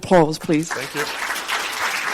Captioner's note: crowd applauding